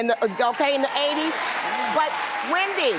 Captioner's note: audience cheers